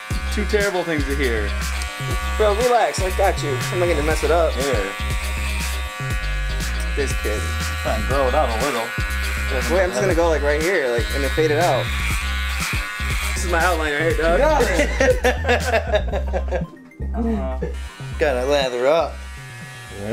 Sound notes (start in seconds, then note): 14.3 laughing